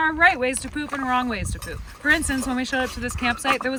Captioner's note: none